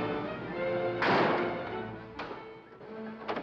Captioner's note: whimsical music; bang